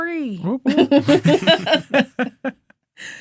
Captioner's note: all laughing